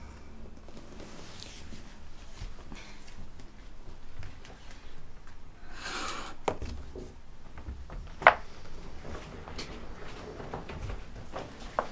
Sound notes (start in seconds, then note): 5.8 sound of the curtain being pulled back